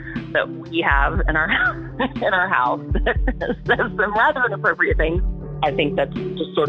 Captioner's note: laughs